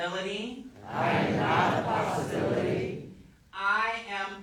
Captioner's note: crowd